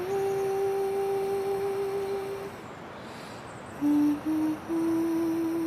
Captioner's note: Mari Humming